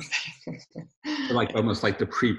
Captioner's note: laughs